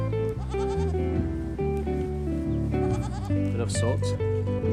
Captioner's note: bleating